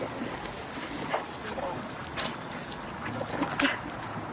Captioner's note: dog whining